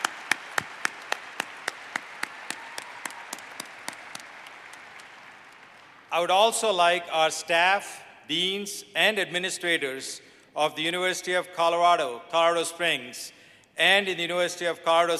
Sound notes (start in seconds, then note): 4.3 applause